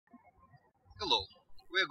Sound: birds chirping

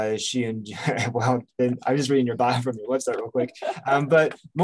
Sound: chuckles

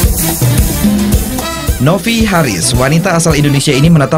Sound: non-english speech

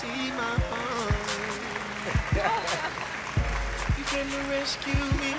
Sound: laughter

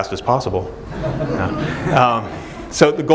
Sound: laughing

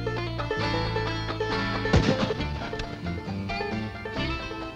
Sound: gunshot

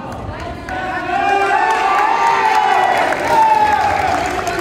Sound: cheering

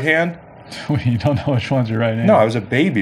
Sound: laughs

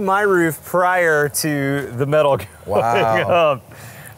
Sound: laughs

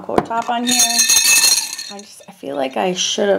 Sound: brushes clang

